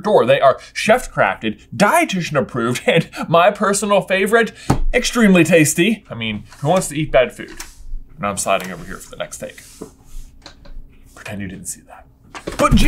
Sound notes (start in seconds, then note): none